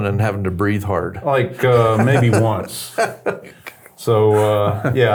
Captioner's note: laughs